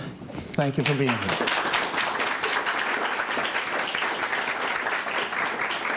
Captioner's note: clapping